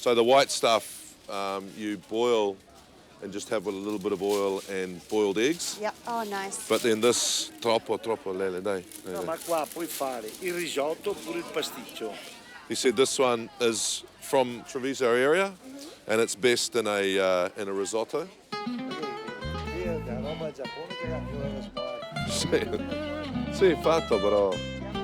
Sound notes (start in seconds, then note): 7.9 speaking in Italian; 18.5 style jazz; 21.8 speaking in Italian